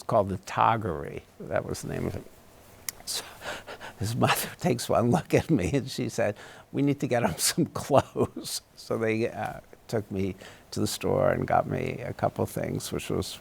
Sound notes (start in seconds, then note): 3.4 chuckles; 8.2 laughs